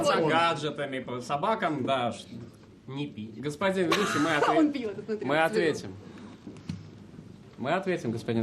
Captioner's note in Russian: смех